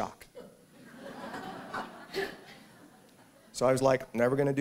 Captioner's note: laughter